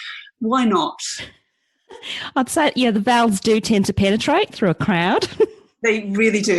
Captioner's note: mock aussie accent